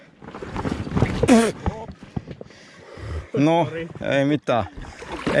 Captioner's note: unsmooth boarding